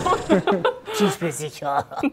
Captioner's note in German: Tiefes Murmeln